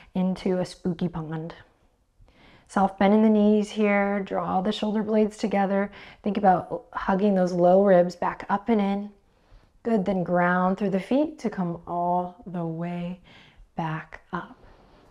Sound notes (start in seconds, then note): none